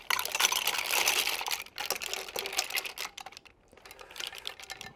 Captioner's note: mussels clattering